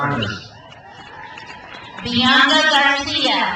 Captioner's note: crowd cheers